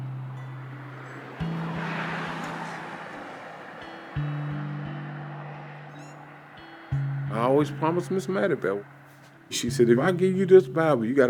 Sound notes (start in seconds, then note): 0.1 soft music; 5.8 engine humming; 5.8 soft music